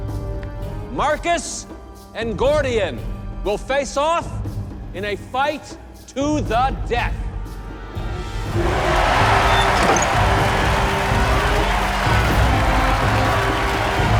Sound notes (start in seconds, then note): 8.4 crowd cheering; 12.2 suspenseful music playing